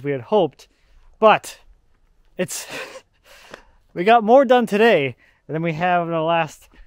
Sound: laughs

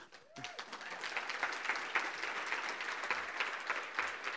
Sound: applause

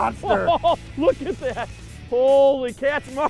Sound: laughs

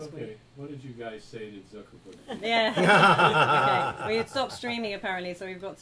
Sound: laughter

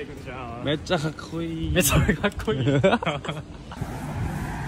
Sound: laughing

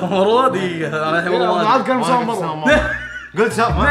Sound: laughs

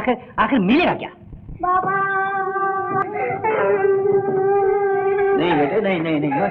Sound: crying

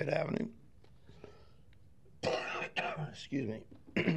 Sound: coughing

